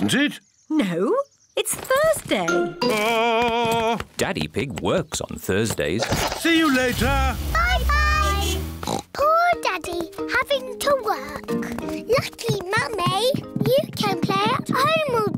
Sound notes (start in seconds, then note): 8.1 horn beeps; 8.8 oinks